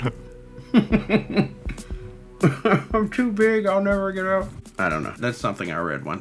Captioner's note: laughs